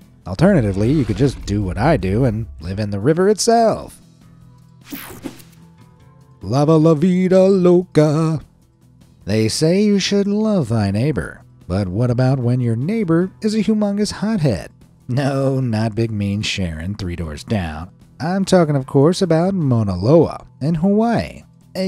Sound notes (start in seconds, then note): 4.9 screen whooshing